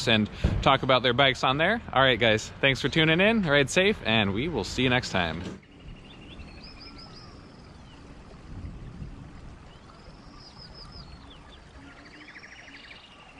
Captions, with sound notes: and talk about their bikes on there. All right guys, thanks for tuning in. Ride safe, and we will see you next time. (birds chirping)